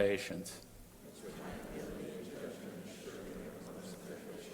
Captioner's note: crowd repeating